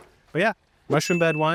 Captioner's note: chime ringing